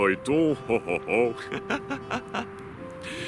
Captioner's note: laughs